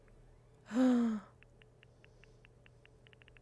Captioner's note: gasps